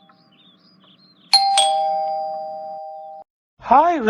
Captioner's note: door Bell sound